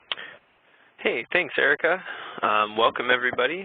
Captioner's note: voiceover